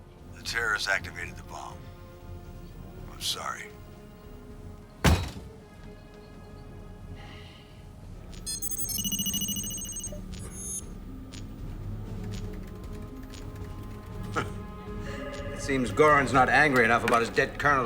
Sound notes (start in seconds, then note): 14.1 scoffs